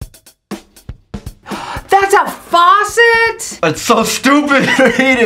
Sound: gasps; laughs

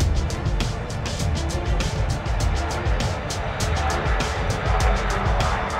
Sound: airplane taking off

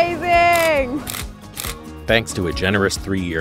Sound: shutter clicking

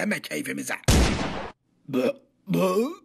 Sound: gun sound

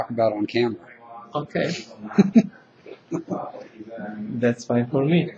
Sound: laughing

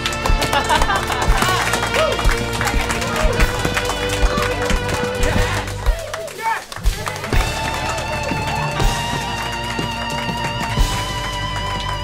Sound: cheering

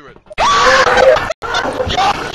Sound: screams

